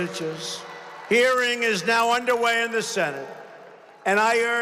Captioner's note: applause